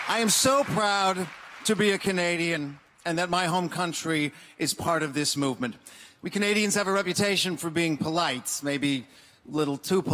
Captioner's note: applause